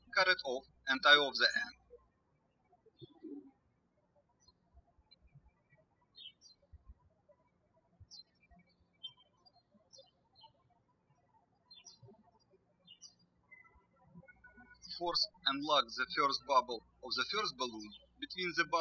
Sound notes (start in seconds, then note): 3.1 birds chirping